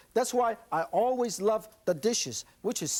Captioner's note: none